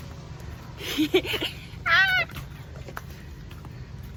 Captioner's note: laugh